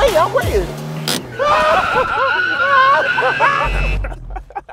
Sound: laughing

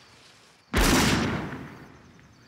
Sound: gunshot

